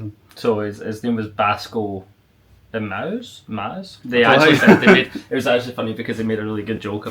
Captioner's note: laughs